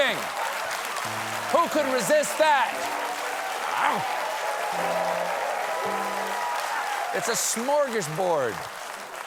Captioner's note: applause